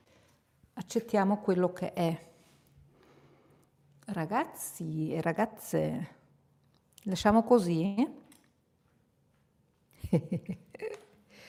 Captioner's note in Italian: risate